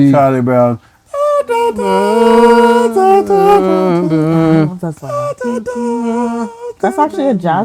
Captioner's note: humming